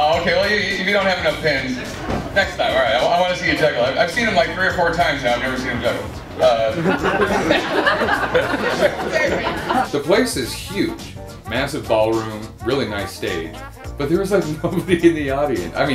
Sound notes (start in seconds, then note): 6.4 laughter